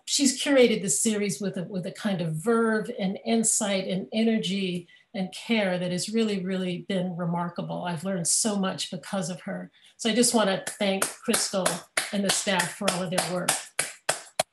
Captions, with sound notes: she's curated the series with a kind of verve and insight and energy and care that has really, really been remarkable. I've learned so much because of her. So, I just wanna thank (clapping) Crystal and the staff for all their work.